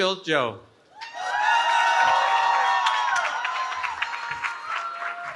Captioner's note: cheering